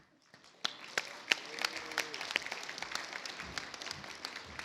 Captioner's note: audience applauds